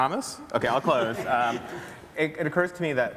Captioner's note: everybody laughs